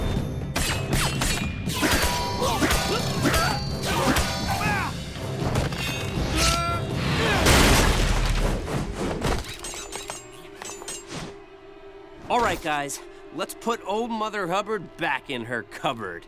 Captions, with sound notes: [grunting] [grunting] All right, guys. Let's put old Mother Hubbard back in her cupboard.